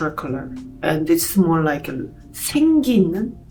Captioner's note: speaking Korean